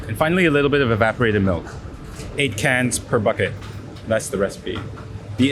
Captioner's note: none